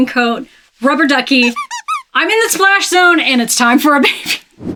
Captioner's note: duck squeaking